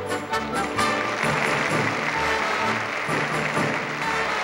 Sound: audience applauding

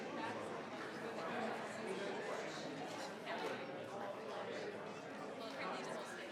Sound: crowd chattering continues

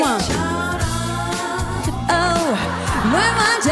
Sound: the audience explodes with excitement

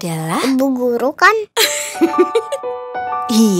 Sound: aunty Dewi giggles

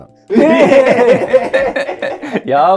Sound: laughing

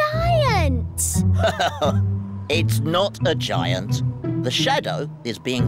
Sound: laughs

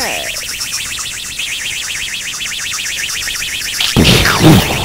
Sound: rocket engine; explosion

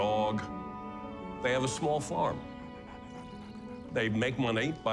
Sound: dog panting

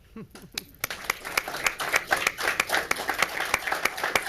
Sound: crowd applauds

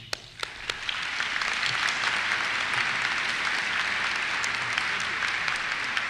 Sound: applause

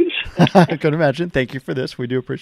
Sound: laughs

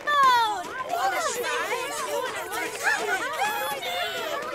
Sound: excited crowd approaching

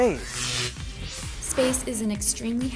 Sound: sound Effects

